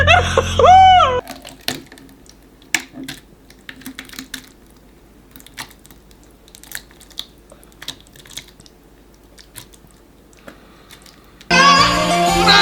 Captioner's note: sloppy Sounds